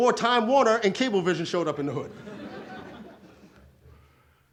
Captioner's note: audience laughs